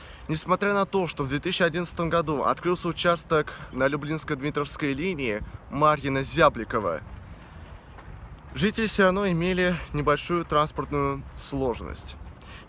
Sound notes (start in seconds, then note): none